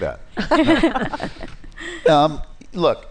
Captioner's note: laughter